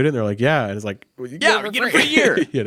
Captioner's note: chuckles